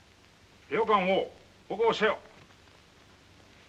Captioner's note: speaking in Japanese